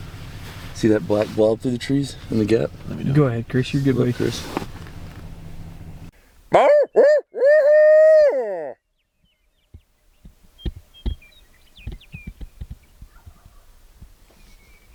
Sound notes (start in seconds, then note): 4.1 owl Hoot